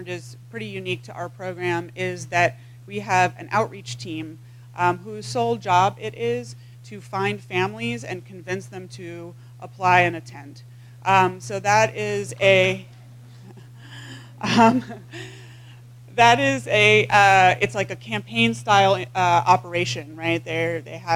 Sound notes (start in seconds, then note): 13.3 laugh